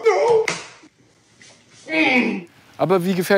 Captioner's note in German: Stöhnen